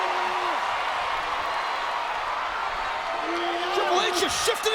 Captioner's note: audience cheers